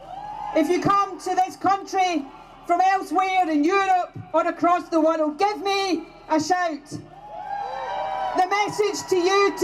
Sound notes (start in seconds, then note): 0.0 cheers; 7.2 mair cheers